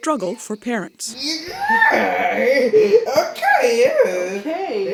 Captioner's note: squealing